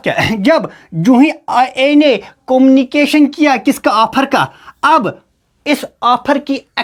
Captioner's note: sound of clearing throat